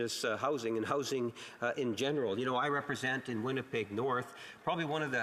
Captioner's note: speaking alternate language